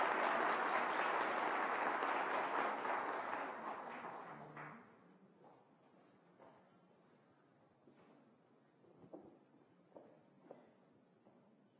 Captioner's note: applause